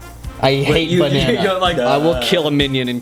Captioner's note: laughing